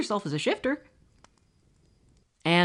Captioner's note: awkward crickets and fire crackling